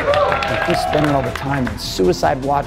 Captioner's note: audience cheering